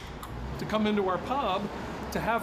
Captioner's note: can pull opens